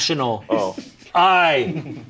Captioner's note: people laughing